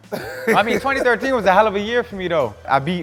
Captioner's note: Stephen laughing